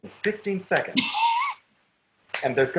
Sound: laughs; snaps fingers

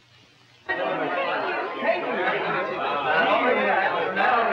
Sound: chatter

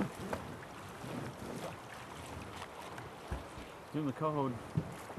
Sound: fish splashing

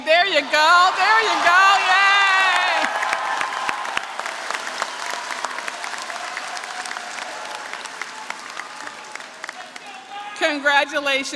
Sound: applause

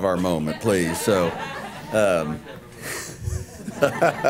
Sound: laughter

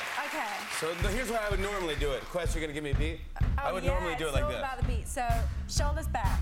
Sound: cheers and applause

